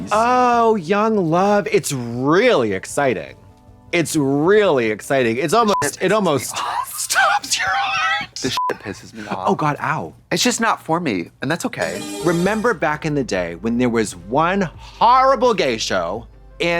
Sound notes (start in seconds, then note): 5.9 beep; 9.0 beep; 11.9 bright chime